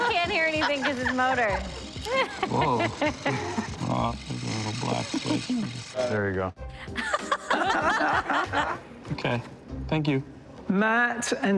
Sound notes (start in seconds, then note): 5.5 whirring stops; 6.9 laughter